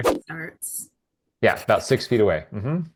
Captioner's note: image whooshing; pencil scribbling